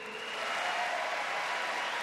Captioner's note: applause